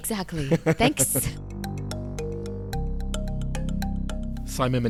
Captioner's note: voiceover